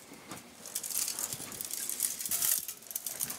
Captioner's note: quiet clattering